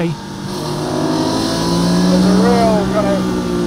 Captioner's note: car engine revving